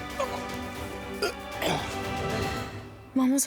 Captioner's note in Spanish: Expresiones de asco